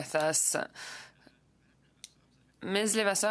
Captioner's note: speaking French